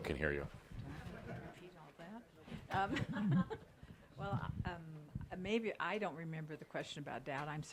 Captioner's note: she giggles